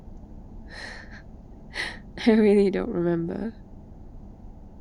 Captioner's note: laughs